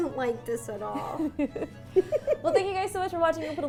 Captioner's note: both laughing